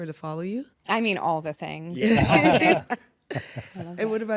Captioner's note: laughter